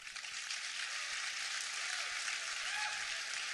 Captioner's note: applause